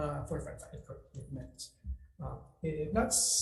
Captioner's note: speaks faintly